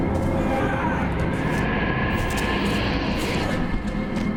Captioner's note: gritos; ominosa de la música